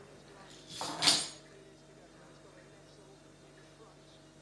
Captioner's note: keys rattles